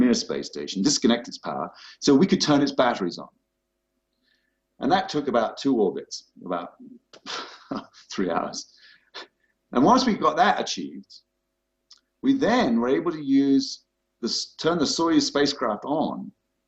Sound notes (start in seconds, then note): 7.3 laughter